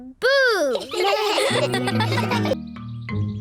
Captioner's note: all laugh